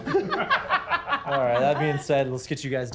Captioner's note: everyone laughing